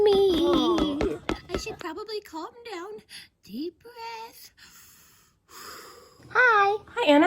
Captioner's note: breathing